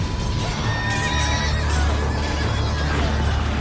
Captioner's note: swords clanging, men clamoring